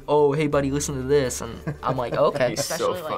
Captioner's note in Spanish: se ríe